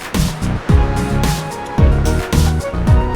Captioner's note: heartbeat